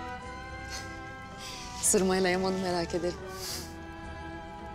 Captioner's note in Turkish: Gülme sesi